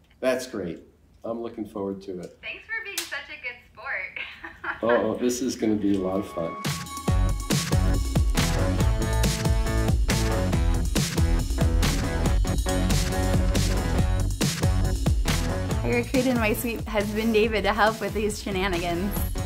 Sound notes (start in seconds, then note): 4.2 laugher; 6.7 upbeat music; 19.2 upbeat music